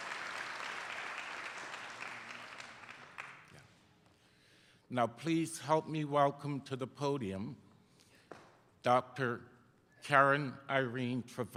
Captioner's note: applause